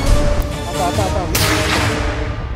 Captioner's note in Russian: выстрел